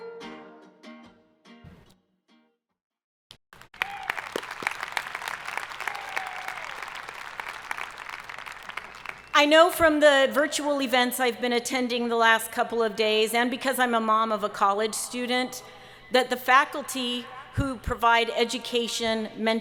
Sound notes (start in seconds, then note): 3.5 audience applauding